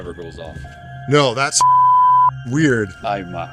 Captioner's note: beep